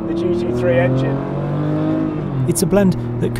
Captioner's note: car engine revving